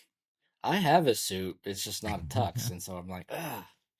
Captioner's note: laughs